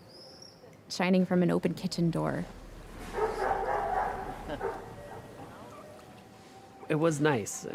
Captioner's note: dog barking